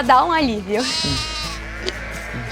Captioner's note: bleating